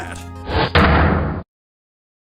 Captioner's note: ominous thrum